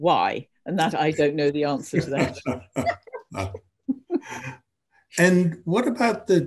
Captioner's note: both laughing